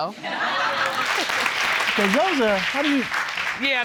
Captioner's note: audience laughing and clapping